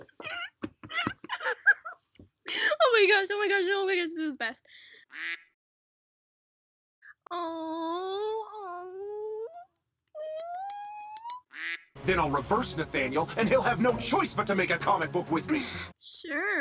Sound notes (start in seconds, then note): 5.1 quack; 10.6 light claps; 11.5 quack